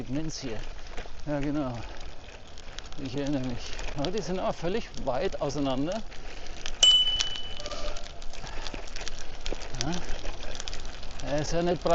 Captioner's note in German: Klingel